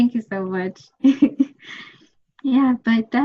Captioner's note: laughs